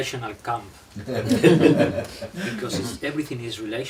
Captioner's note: laughing